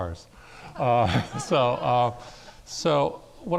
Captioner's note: laughing